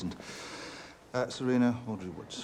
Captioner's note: inhales